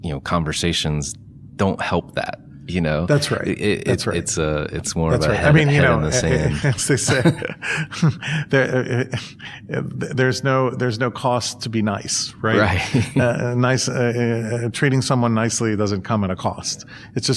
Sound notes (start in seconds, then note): 6.2 laughter